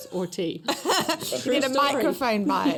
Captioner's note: laughter